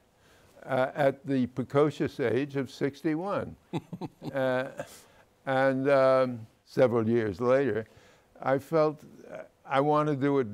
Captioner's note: laughs